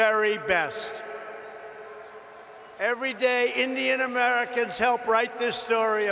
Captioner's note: applause